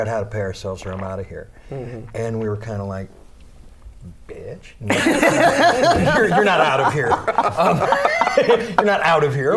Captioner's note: laughter